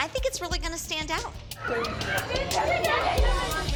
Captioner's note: indistinct chatter